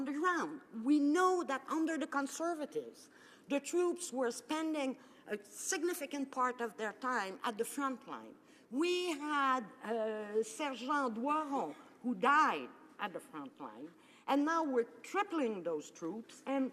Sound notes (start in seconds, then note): none